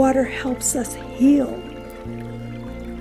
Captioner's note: water trickling